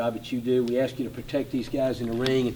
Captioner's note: none